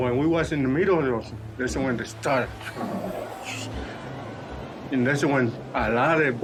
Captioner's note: imitates wind blowing